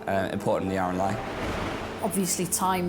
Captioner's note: waves roaring